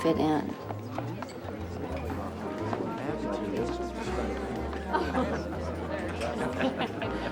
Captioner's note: party goers chattering; soft piano music